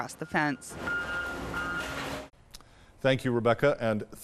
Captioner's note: vehicle beeping